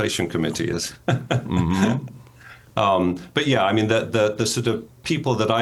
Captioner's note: laughing